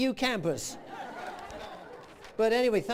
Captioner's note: laughter